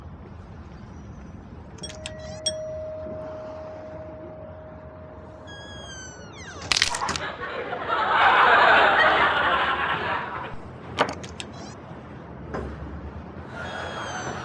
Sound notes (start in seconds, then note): 1.8 door bell dinging; 5.5 door slams; 7.0 audience laughing; 11.1 doorbell dinging